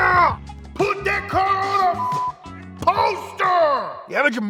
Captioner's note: beep